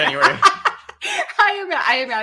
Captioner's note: laughing